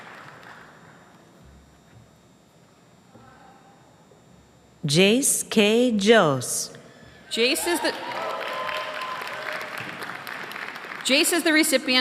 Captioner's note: applause